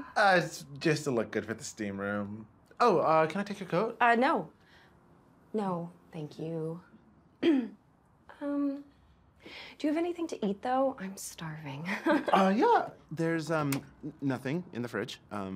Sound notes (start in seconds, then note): 7.4 Maggie clears her throat; 12.0 laughs